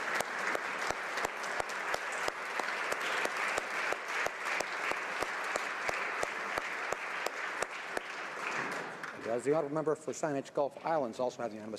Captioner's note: applause